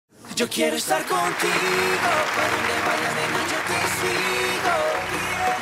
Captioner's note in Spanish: Aplausos